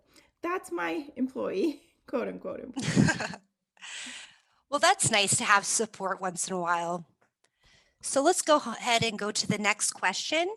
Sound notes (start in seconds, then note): 2.8 laughter